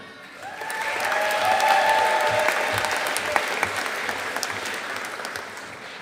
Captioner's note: audience applauding